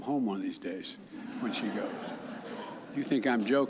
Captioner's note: laughter